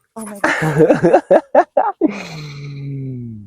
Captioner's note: laughs